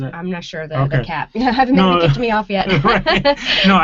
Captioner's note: laughing